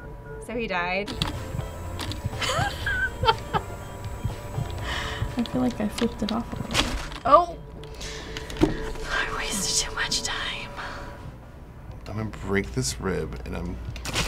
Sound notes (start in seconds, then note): 2.4 wheezes, laughs; 6.9 smack!; 8.4 whispers